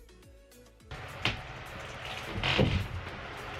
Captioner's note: wood starts creaking